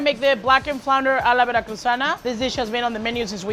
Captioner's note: speaking Spanish